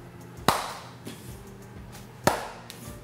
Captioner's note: claps hands; claps hands